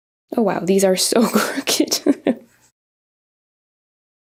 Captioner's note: laughs